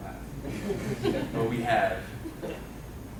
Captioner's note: laughing